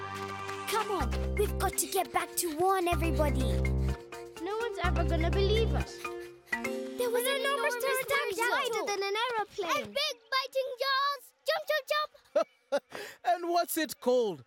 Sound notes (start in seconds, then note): 5.9 overlapping chatter; 11.9 laughing